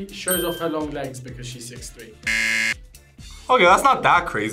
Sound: buzzer rings

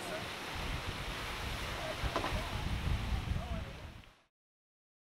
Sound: wind blows

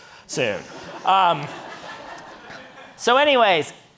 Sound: audience laughing

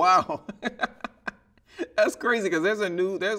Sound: laughing

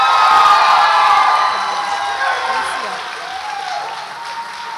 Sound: audience applauds and cheers

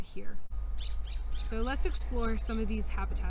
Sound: bird chirping

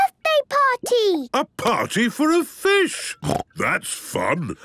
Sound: snorting

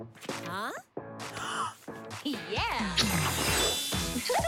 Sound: gasps; giggles

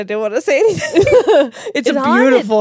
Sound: laugh

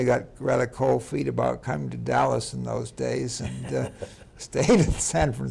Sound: laughing

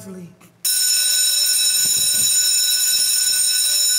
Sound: bell ringing

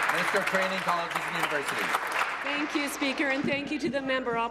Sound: applause

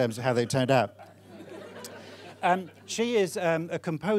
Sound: audience laughing

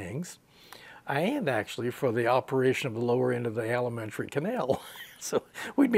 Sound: he laughs

